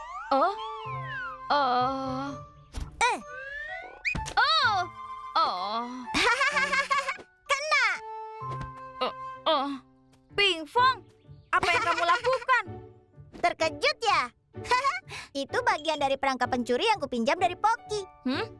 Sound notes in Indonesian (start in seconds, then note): 6.1 Pinkfong tertawa; 14.4 Pinkfong tertawa